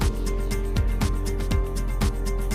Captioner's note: none